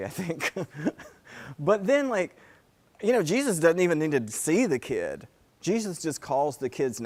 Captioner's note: laugh